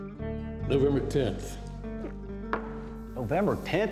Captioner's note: gulps